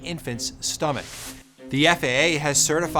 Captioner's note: graphics swishing